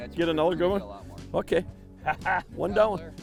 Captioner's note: lauging